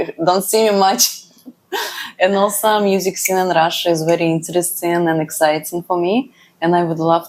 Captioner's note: laughs